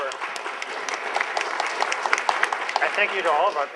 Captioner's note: applause